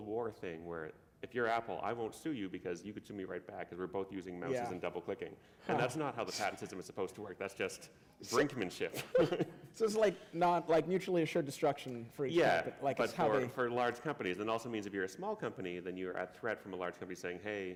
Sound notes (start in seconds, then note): 8.9 chuckle